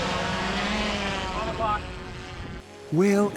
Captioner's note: drone whirring